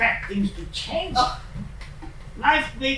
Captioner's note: scoff